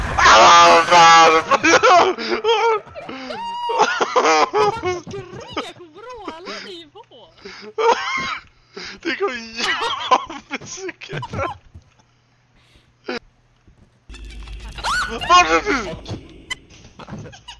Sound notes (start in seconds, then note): 0.1 screams; 9.2 trynna breathe; 14.8 screams